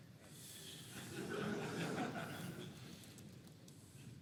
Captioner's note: laughter